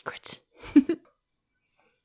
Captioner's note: giggling playfully